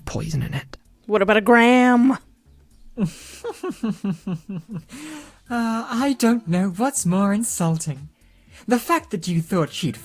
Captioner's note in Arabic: ضحك